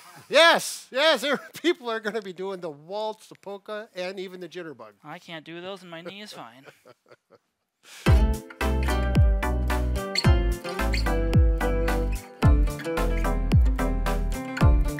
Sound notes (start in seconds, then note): 6.1 laughs; 8.0 bright, upbeat music